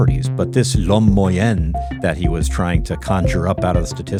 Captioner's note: speaks in French